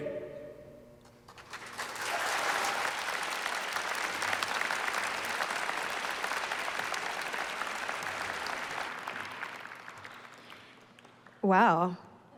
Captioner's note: applause